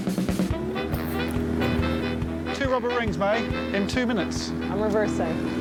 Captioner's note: motor revving